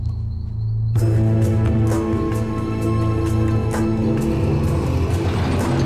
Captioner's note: ominous music; machinery rumbling loudly